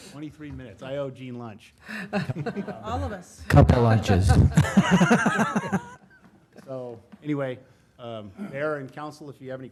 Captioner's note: laughter; laughter